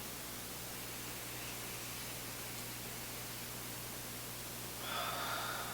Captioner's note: both deeply breathe